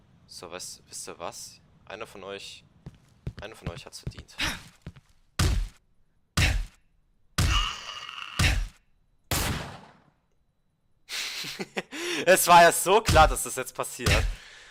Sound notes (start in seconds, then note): 5.3 punch noises are back; 9.4 missed REVOLVER SHOT; 11.2 giggles